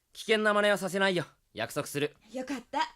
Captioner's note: none